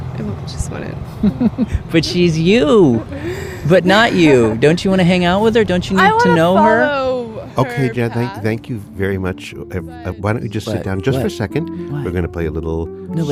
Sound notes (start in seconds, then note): 1.2 laughs